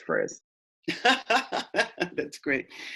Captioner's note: laughter